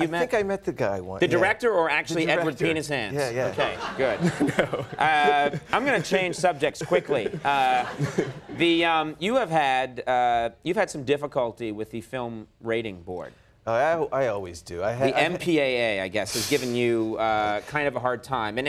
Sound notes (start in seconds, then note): 3.4 laughs